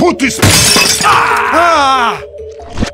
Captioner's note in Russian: ломание стекла